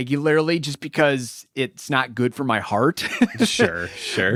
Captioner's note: laughs